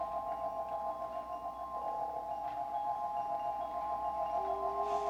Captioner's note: crystal chiming